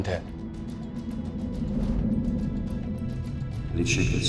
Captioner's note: air whooshing